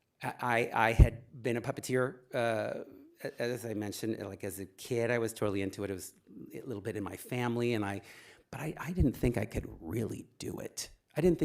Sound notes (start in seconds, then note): none